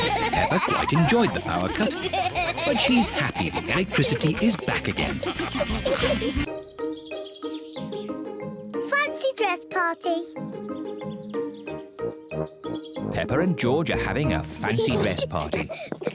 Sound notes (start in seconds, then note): 5.5 all giggling and snorting